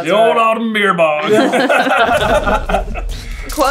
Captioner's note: laughter